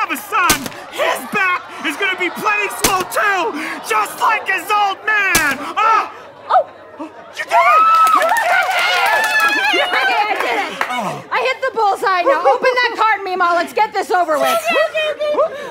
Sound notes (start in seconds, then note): 0.4 bam; 2.8 bam; 5.3 bam; 8.7 cheering; 14.9 in high voice